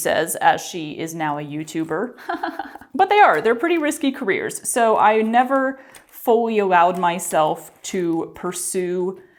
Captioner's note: sarcastic laughter